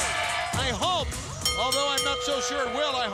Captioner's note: bell ringing